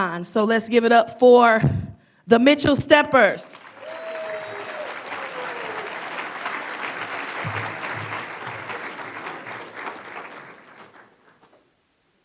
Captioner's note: applause